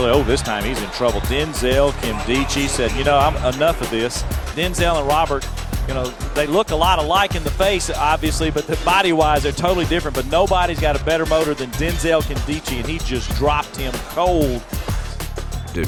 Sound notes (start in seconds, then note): 4.7 voiceover